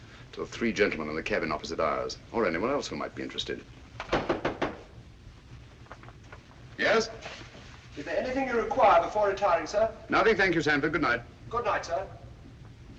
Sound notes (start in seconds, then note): 4.0 knock on door